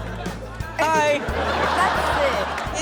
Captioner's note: crowd laughing